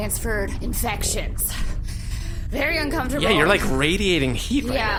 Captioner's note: laboured tone; sharp breath